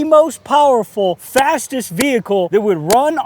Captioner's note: hands slap